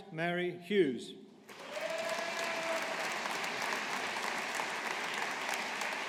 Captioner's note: audience applauding